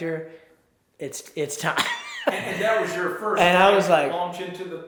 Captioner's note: laughs